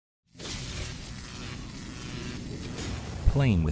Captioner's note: electricity Buzzing